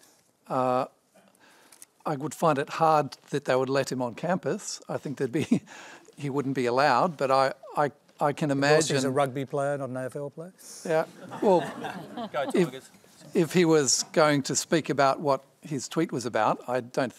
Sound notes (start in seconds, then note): 11.1 laughter